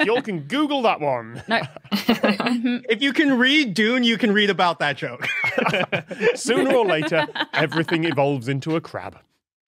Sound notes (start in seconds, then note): 1.4 snickers; 5.2 both laugh